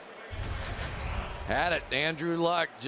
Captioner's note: pa announcement